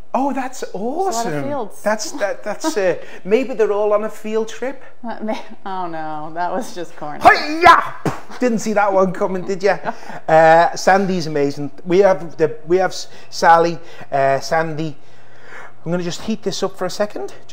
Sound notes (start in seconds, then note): 7.2 exclaims